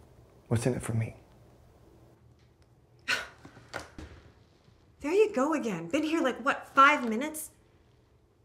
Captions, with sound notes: What's in it for me? (Alex scoffs) - There you go again. Been here, like what? Five minutes?